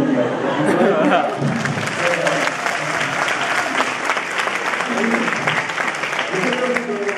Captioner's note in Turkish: Öğrencilerin kahkaha sesleri ve alkışlar